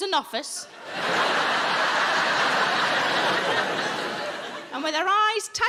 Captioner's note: audience laughing